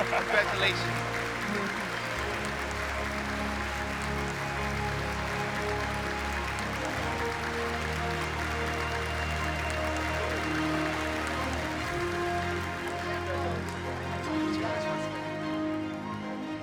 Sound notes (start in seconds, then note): 1.9 applause